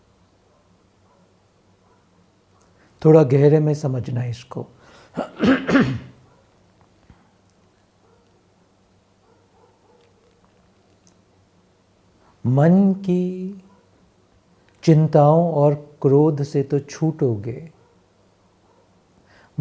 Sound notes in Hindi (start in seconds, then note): 5.1 खांसने की आवाज़; 5.1 गला साफ़ करने की आवाज़